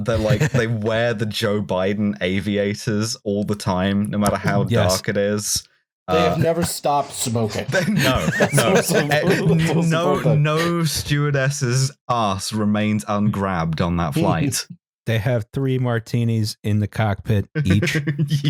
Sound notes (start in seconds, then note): 7.6 laughs; 17.6 laughter